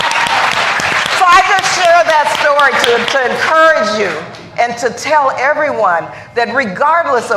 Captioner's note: cheers and applause